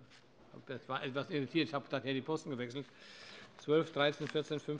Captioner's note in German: none